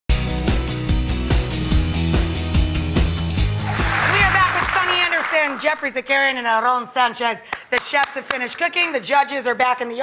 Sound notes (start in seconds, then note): 0.1 upbeat rock music; 3.4 audience applauds; 7.5 claps